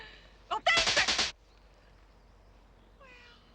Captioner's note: electricity sizzling